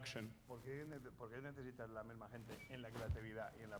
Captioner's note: speaking spanish